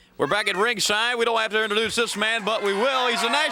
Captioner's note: crowd chatter